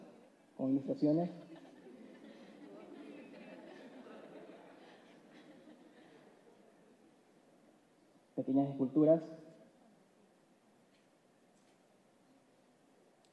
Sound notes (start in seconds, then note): 3.2 laughs